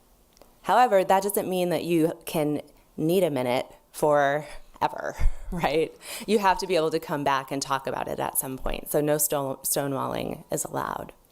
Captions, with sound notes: However, that doesn't mean that you can need a minute forever (laughs). You have to be able to come back and talk about it at some point, so no stonewalling is allowed.